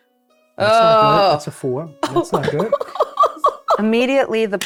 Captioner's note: sobbing